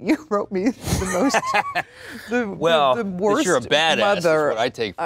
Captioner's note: laughs